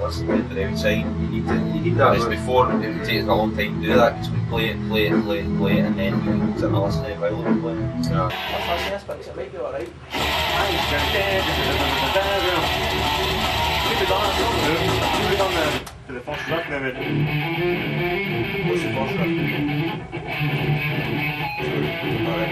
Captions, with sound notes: back and then actually listen to it from the outside. Whereas before it took us a long time to do that because we'd play it play it, play it, play it and then we would listen to it while we were playing it. Let's listen to this bit because it might be alright. I think we should we have went...(HUMS RIFF)...there. See ifwe done the first riff then we... What's the first riff?